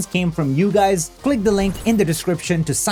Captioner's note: text whooshing